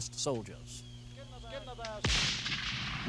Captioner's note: rifles firing